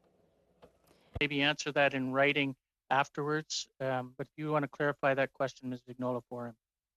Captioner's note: speaking French